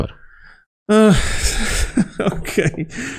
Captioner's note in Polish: śmiech